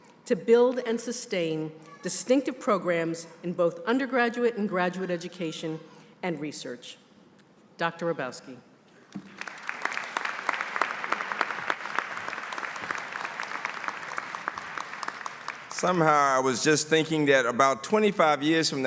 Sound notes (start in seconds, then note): 9.1 applause